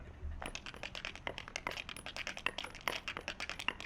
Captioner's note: tapping